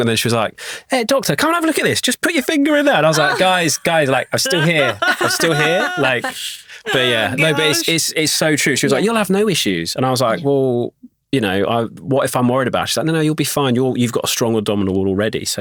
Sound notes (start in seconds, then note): 5.9 laughing